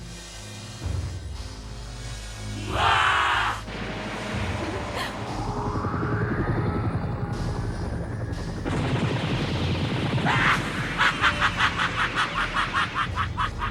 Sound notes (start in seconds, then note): 2.6 roars; 3.8 gunshots; 6.2 helicopter whirs; 8.8 gunshots; 10.2 laughs maniacally